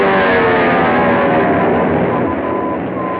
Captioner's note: beeping